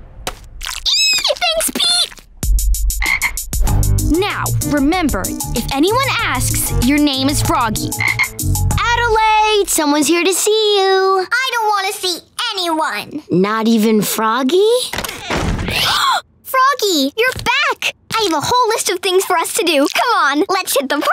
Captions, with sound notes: [squealing] Thanks, Pete. [croaking] Now, remember, if anyone asks, your name is Froggy. Adelaide! Someone's here to see you! I don't want to see anyone! Not even Froggy? [gasping] Froggy! You're back! I have a whole list of things for us to do. Come on, let's hit the park.